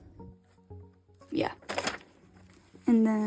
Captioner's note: crackle